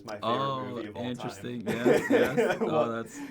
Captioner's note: laughs